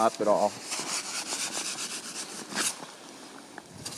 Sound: saw crunching

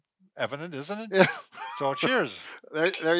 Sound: laughs

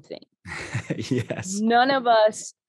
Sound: chuckling

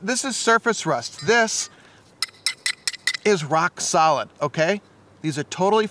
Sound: clinking

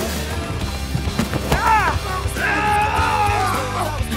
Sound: grunting

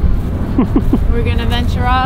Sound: laughs

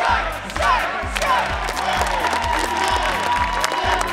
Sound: excited applause and solidarity chants

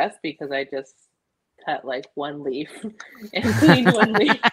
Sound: both laughing

